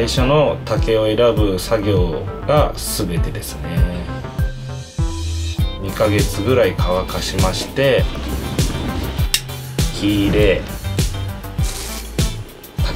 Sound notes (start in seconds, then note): 5.6 speaking in foreign language; 7.1 rustling; 9.1 click; 11.5 scraping; 12.7 speaking in foreign language